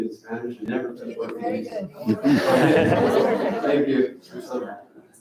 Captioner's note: crowd laughs